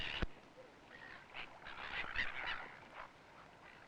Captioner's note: seagulls squawking